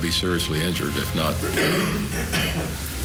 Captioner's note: man Coughs